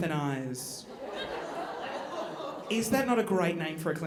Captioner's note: audience laughing